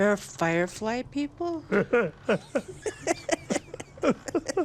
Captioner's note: laughing